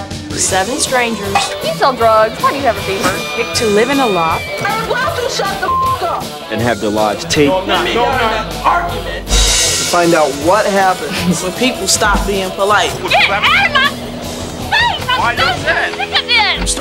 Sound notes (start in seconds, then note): 6.1 beep; 9.3 cymbals clash